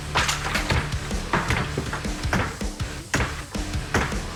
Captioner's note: chopping